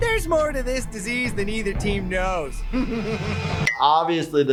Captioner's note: giggles